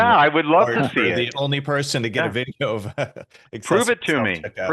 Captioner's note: laughing